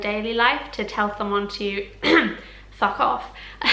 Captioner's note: cough